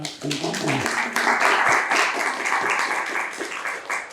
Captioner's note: attendees applauding